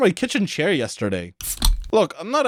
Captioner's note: bottle opening sound